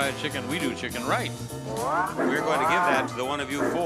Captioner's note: train engine chugging